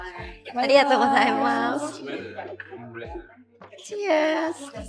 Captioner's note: laughs